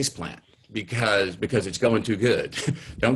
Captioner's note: chuckles